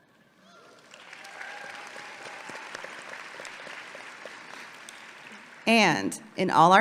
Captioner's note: audience clapping and cheering